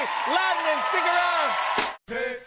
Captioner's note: cheers and applause